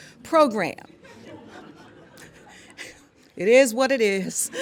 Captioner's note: laughter